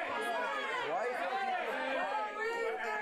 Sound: audience shouts answers

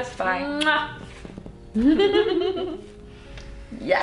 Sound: laughing

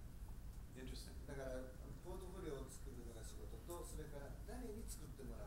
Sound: speaking in foreign language

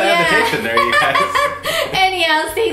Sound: chuckles

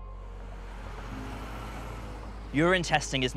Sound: traffic noises

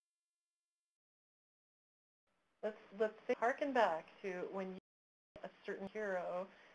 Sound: silence

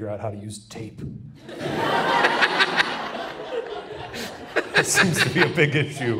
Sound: Shane, Ryan and audience laugh

